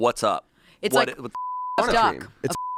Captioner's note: beep